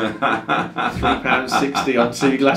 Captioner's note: laughs